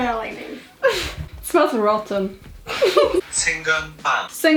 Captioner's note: Google translate voice speaks